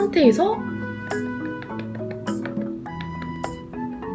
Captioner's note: pat pat pat